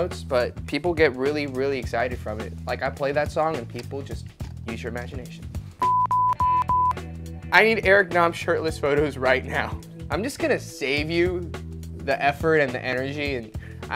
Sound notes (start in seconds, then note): 5.8 beep